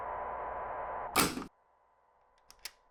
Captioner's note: tape deck shuts off; door quietly opens